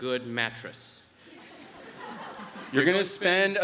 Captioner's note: audience laughs